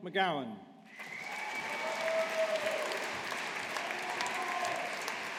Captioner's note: audience applauding